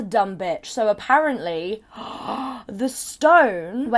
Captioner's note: gasps